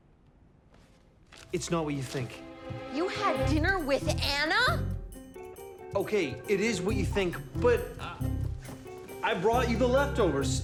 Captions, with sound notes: IT'S NOT WHAT YOU THINK. [AGHAST]: YOU HAD DINNER WITH ANNA? OKAY, IT IS WHAT YOU THINK. BUT, UH... I BROUGHT YOU THE LEFTOVERS!